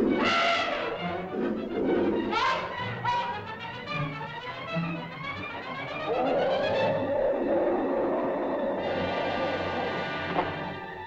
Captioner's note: suspenseful music; mastodon grunts and growls; suspenseful music